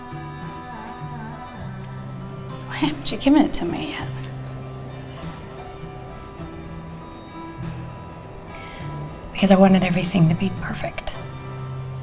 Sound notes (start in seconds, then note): none